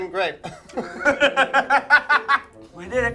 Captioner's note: both laugh